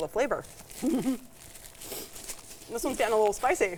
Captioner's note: giggling